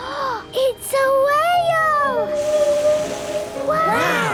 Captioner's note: gasps; whale calling